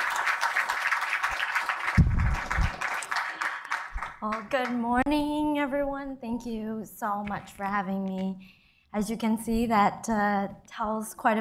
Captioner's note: cheers and applause